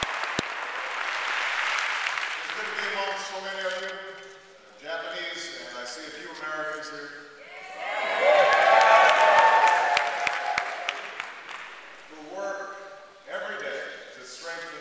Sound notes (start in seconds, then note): 0.0 applause; 8.2 applause